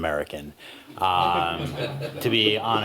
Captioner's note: laughter